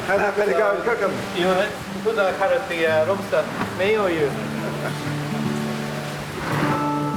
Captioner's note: laughs